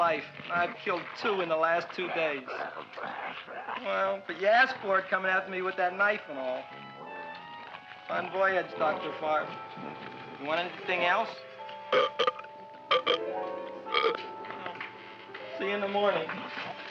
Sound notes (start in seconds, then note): 12.9 burp